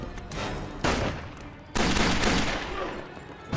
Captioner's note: dramatic music; guns firing; man grunting